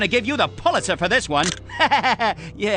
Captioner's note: laughter